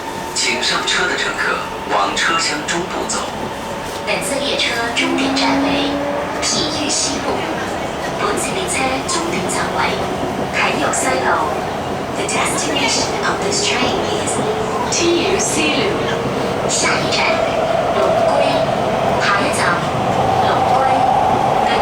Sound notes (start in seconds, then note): 8.1 Cantonese; 18.9 Cantonese